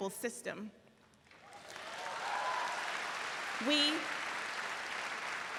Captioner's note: audience applauds